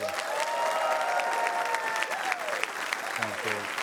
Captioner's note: cheering, applause